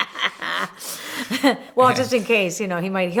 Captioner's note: laughter